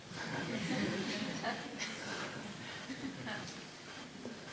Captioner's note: laughter